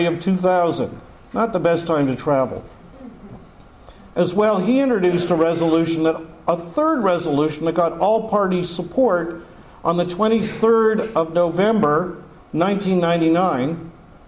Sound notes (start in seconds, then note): none